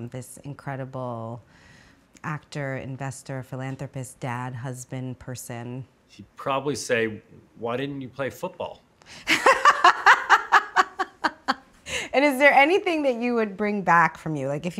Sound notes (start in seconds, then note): 9.2 laughing